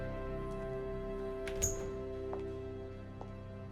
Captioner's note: door opens